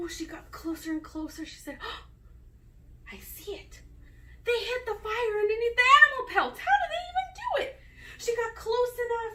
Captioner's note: gasp